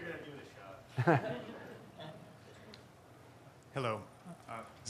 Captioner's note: audience laughing